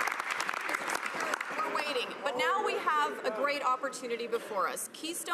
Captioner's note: some Applause